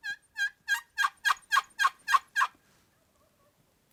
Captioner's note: turkey calling